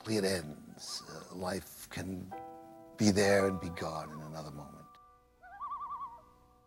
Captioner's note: loons Calling